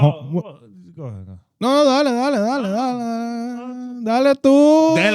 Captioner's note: speaking Spanish